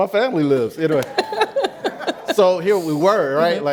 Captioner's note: laughs